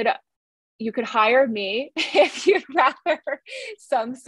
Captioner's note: laughs